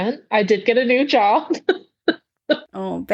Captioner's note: laughs